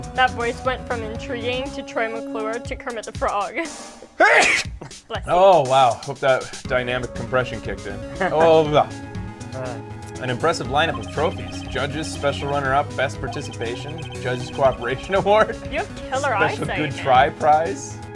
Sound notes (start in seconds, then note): 4.0 sneezes; 4.1 laughs; 8.0 laughs; 14.6 laughs